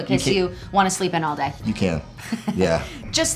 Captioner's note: Jillian chuckles